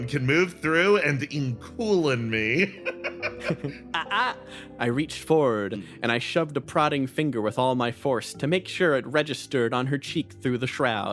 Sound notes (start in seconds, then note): 2.7 laugh